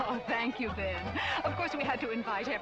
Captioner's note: laughing